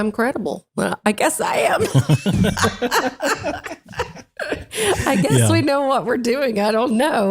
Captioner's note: laugh